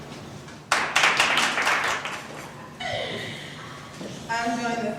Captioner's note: applause